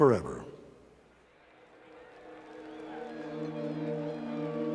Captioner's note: crowd cheering